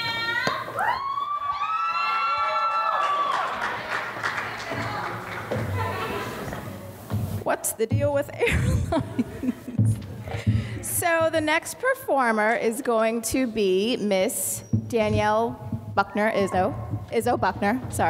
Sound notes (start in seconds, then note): 0.0 women cheering; 8.4 laughs